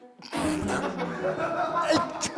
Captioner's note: pfft